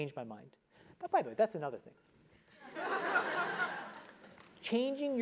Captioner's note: laugh